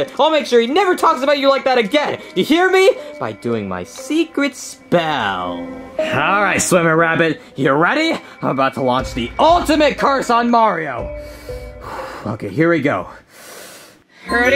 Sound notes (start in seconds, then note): 11.1 Junior inhaling and exhaling; 13.2 inhaling; 14.3 Junior speaking backwards